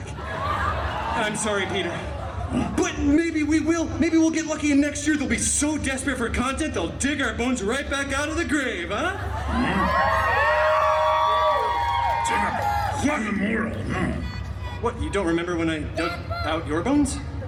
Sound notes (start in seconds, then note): 0.1 guests gasping; 9.3 guests cheering and applauding